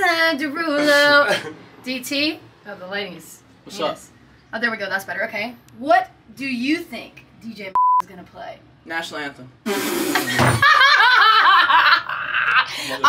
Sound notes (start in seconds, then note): 7.7 beep; 10.2 group laughing